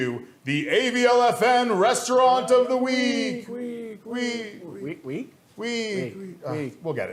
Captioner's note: echoes